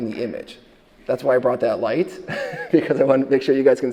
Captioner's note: chuckles